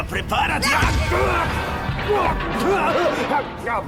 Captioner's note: groans